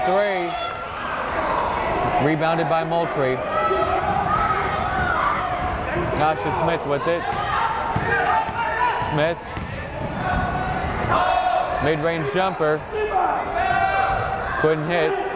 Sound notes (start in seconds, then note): 4.4 yelling; 11.1 yelling